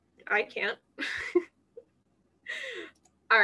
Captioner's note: laughter